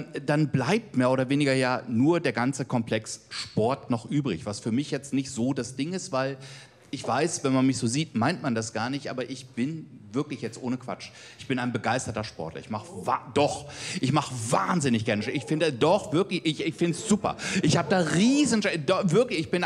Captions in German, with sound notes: Dann bleibt nur der ganze Komplex Sport noch übrig. Was für mich nicht so das Ding ist. Wenn man mich so sieht, dann meint man das gar nicht. Aber ich bin, ohne Quatsch, begeisterter Sportler. Doch! (Zuruf) Oh! Ich mach wahnsinnig gerne Sport. Ich finde es super. Ich habe da Riesenspaß.